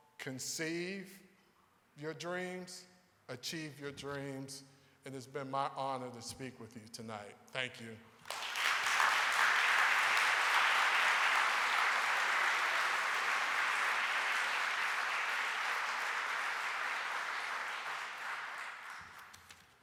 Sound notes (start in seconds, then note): 8.6 audience applauding